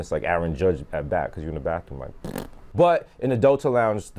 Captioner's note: imitates fart